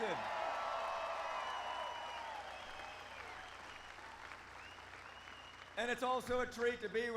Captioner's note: applause